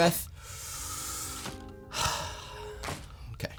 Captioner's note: breathes in and out